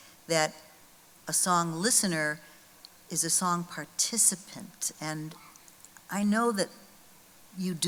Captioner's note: none